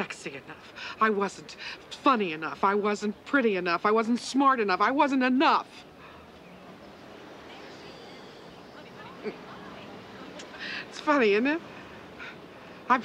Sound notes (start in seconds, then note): 5.7 chuckles